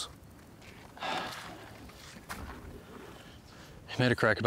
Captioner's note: Madsen sighs